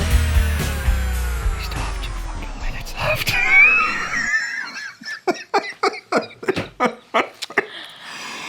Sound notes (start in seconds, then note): 4.6 laughing